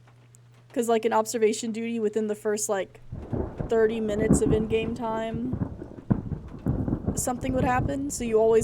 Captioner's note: thunder Rumbling